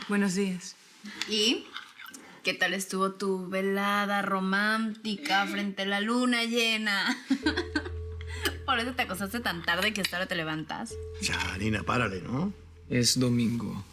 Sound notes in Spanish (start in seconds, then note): 7.0 Risas